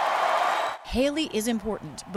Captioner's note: applause; cheering